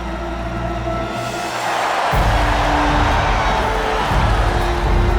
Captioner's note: crowd cheering